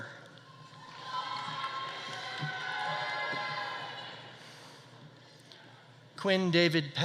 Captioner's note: audience cheering; audience applauding